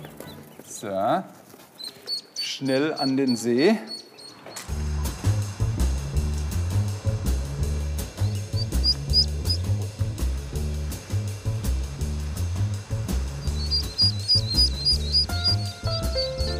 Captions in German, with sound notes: So, schnell an den See. (Piepsen) (Lockere Jazzmusik) (Piepsen)